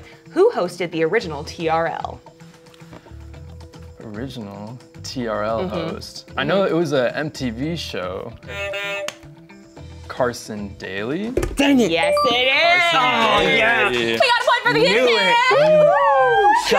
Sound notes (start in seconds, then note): 8.4 buzzer sounds